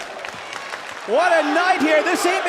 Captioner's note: fans chanting